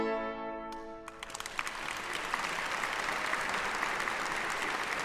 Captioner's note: audience applause